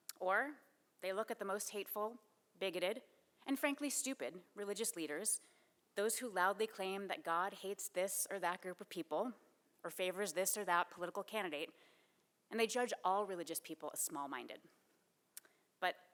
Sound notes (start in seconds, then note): none